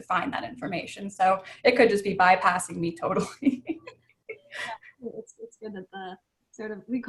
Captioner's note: laughs